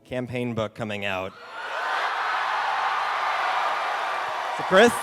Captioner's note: cheering